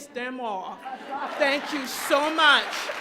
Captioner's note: crowd laughs and applauds